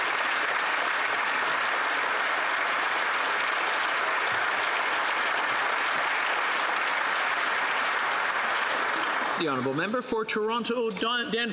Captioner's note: some Applause